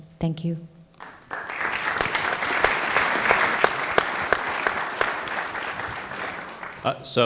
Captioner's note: applause